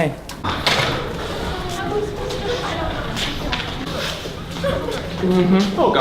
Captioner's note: faint sounds of stress and crying